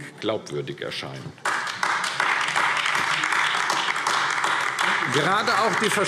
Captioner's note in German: Beifall AfD